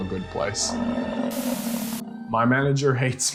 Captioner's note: buffalo grunting